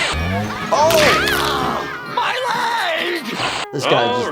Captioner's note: motorcycle engine roaring; metal bangs; screams; bones cracking